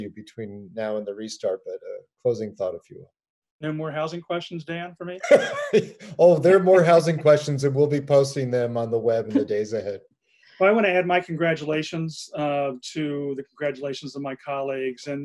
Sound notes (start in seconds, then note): 5.2 laughs